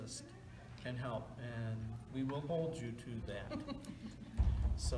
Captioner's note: chuckle